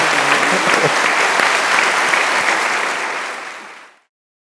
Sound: audience applauding

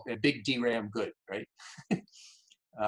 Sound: chuckles

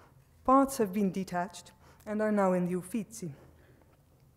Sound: speaks foreign

